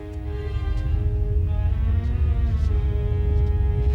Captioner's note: rumbling